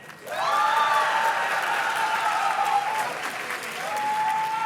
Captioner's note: audience cheers and claps